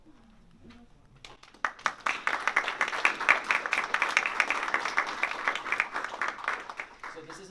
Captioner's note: applause